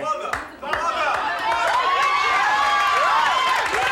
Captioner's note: audience shouts; audience cheers